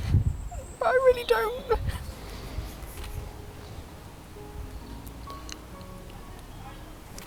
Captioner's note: sobs